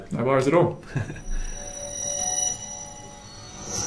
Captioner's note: swoosh